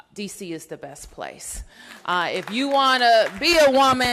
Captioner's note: applause